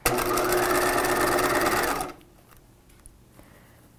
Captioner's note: machine whirring